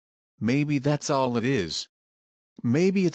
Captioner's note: voiceover